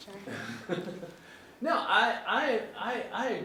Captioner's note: laughing